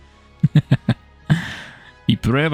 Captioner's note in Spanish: Risas